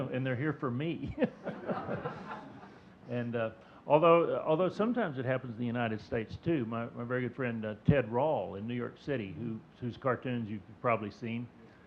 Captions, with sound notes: "And they're here for me." (chuckling) (audience chuckling) And although sometimes it happens in the United States too. My very good friend, Ted Rall in New York City, whose cartoons you've probably seen,